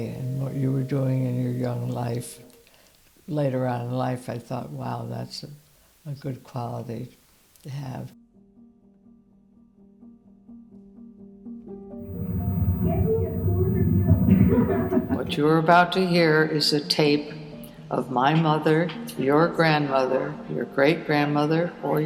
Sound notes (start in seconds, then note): 8.8 gentle piano music; 11.8 indistinct voices laughing